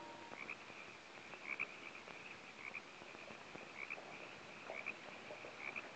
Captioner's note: frogs croaking; insects chirping